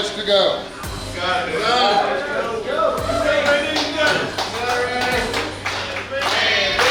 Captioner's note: cheering